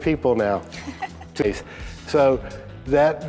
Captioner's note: laughs